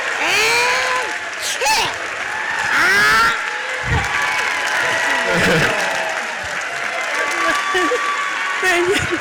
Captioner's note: audience applauds